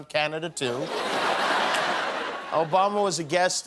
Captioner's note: laughter